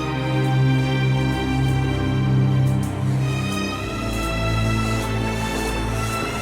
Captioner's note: buzzing; water running